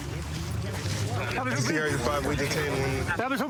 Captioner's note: excited chatter